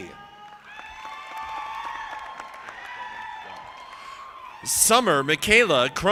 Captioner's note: audience applauding